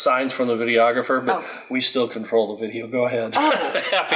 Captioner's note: laughs